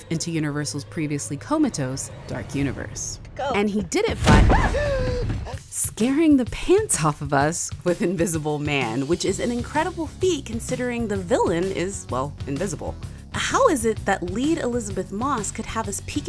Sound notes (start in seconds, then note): 4.2 voiceover; 4.7 woman gasps